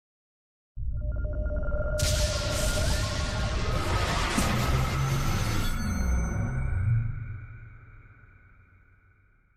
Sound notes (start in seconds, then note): 2.0 electric shatter sound